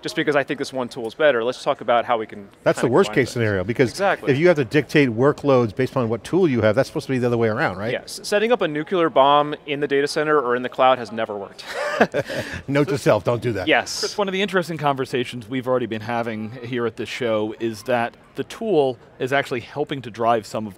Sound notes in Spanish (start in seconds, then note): 11.6 Risas